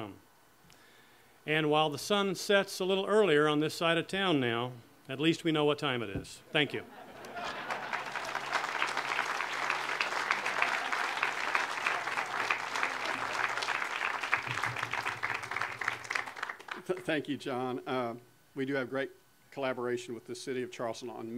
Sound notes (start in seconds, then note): 6.8 audience laughter; 9.0 audience applause